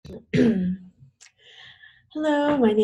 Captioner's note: clearing throat